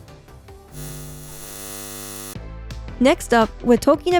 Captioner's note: electronic whining